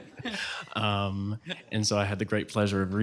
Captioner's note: laughter